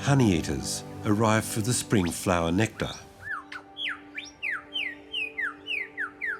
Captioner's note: bird chirps